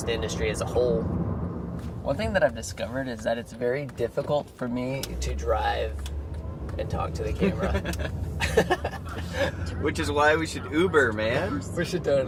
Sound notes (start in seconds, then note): 8.3 laughing